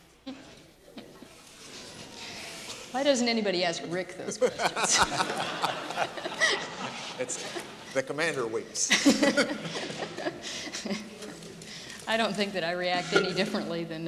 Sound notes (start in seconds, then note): 0.5 laughs; 4.2 crowd laughs; 8.8 laughs